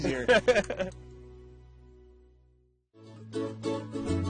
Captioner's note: laugh